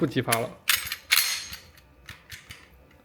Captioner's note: gun disassembly sound